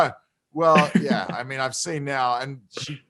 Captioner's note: laughs